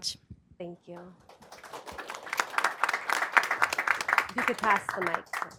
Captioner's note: audience applauding